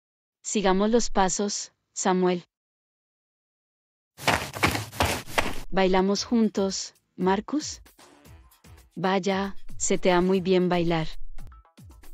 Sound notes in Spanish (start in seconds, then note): 4.2 FX - Footsteps - On Multiple Dirt - Run